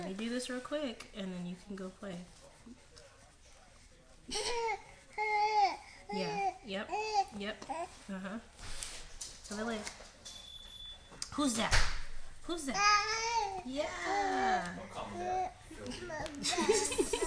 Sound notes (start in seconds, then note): 3.3 baby makes sounds; 12.7 baby attempts to say da-da